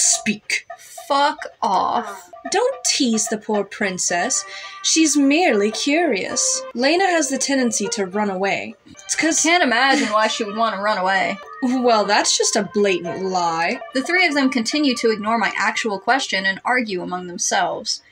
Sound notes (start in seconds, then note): 9.8 chuckle; 9.9 sarcastically